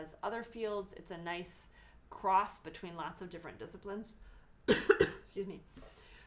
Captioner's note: cough